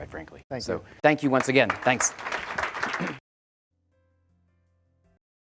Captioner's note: audience clapping